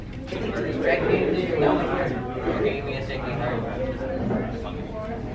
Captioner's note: students chattering